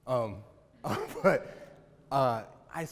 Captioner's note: chuckles